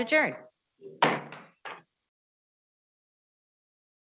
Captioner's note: gavel bangs